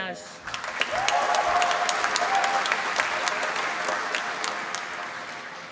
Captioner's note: applause